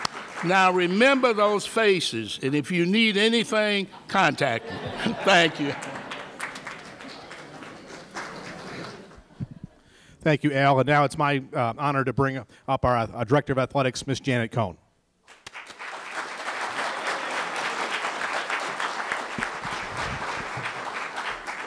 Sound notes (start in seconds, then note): 0.0 applause; 4.2 laughter; 5.0 applause; 15.2 applause